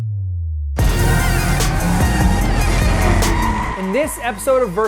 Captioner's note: tires screech